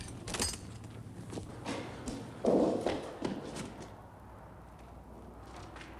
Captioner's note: footsteps thudding